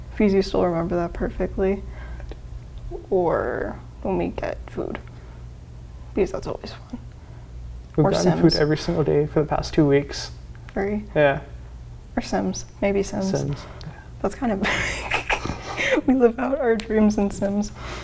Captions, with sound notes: because you still remember that perfectly. - I do. - Or when we get food because that's always fun. Or Sims. - We've gotten food every single day for the past two weeks. - Three. - Yeah - Or Sims, maybe Sims. - Sims yeah. - That's kind of like... (laughs) We live out our dreams in Sims.